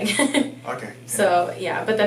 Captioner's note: laughing